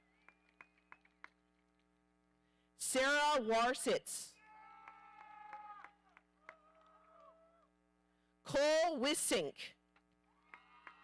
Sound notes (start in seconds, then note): 4.4 audience cheering